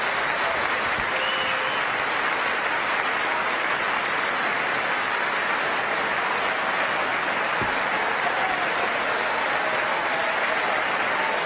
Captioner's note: applause